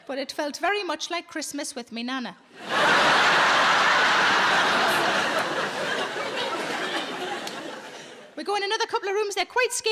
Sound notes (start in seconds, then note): 2.6 audience laughing